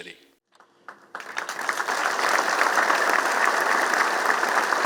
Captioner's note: applause